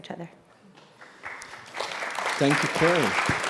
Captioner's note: clapping